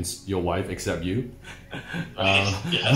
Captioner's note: laughing